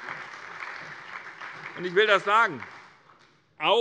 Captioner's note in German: Beifall bei der SPD